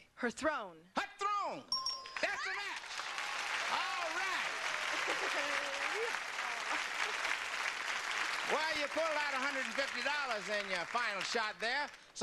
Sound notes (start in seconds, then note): 1.7 bell ring; 3.3 audience applause